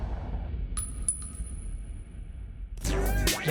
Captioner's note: gunshot; bullet clinking